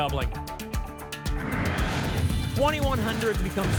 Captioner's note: whoosh